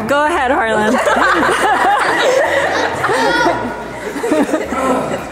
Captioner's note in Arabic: الضيوف يضحكون